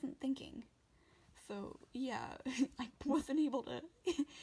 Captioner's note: laughing